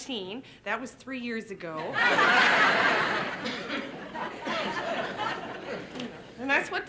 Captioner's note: laughter